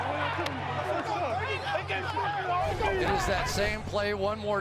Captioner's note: onfield chatter